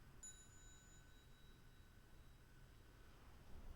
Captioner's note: bell chimes